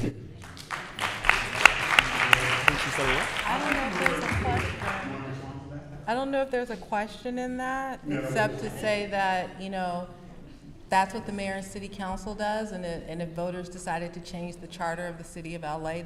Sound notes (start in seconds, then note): 0.4 applause